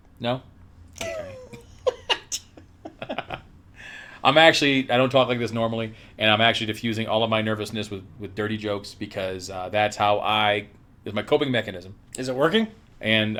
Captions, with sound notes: No? (laughs) I'm actually, I don't talk like this normally. And I'm actually diffusing all of my nervousness with, with dirty jokes because that's how I... Is my coping mechanism. - Is it working?